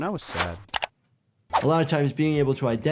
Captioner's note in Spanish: clic